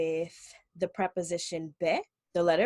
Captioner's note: speaking Hebrew